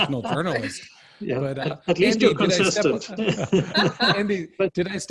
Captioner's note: laughter